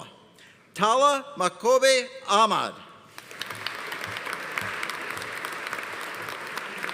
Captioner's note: audience applauding